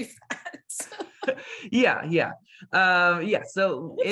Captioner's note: laughing